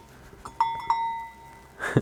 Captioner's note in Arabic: رنين جرس البقرة